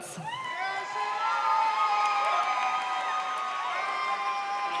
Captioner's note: audience cheers